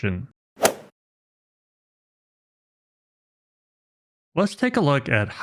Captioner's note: golf ball hit sound effect